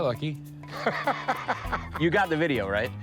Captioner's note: laughs